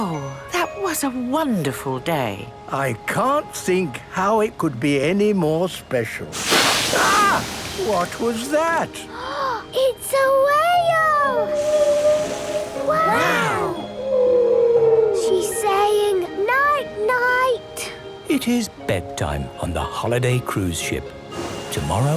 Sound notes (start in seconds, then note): 11.3 whale calling; 11.5 gasps; 14.8 whale calling